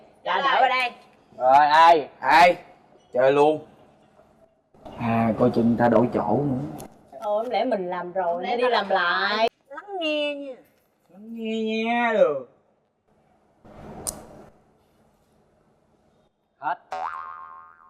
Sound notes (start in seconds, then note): 14.0 clicking sound of the pen-point